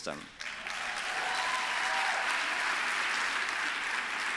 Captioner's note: applause